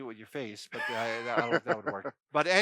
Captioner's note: laughs